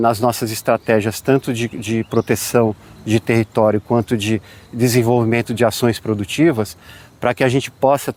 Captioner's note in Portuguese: som de pássaros